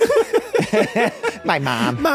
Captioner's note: guys laughing